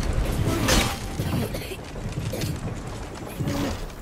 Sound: coughs

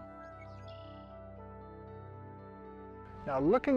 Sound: bird chirping

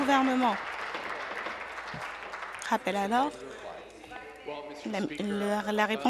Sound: applause

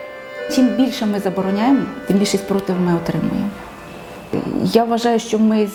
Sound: in Ukrainian

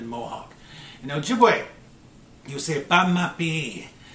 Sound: speaking Ojibwe

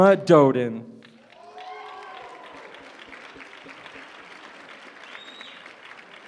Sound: applause

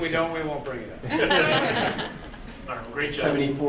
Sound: group laughing

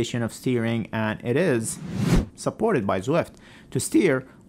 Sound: Instagram username whooshes

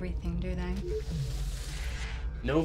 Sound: door beeps and whooshes

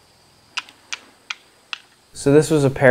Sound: sound of stones being clapped together

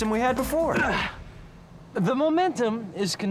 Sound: grunting

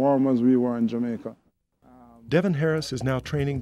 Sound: voiceover

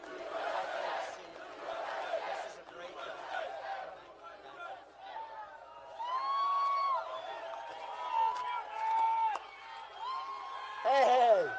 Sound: crowd chanting "usa"

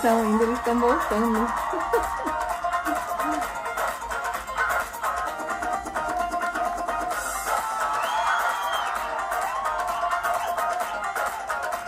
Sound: applause

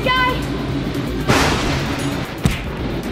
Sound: thunderclap

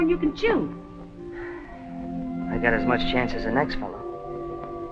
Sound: sigh

